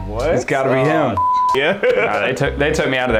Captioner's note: laughing